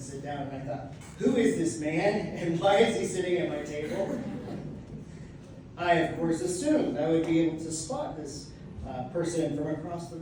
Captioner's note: audience laughs